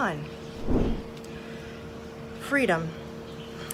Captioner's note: air whooshes